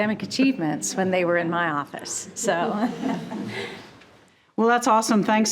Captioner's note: laughs